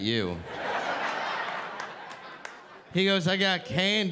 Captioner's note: audience laughing